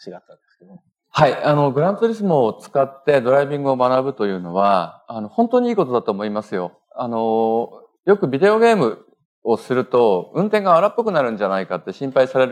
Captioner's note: speaking japanese